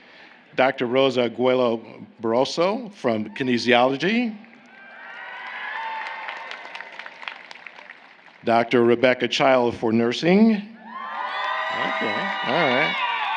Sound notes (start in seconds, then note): 4.4 applause; 11.7 applause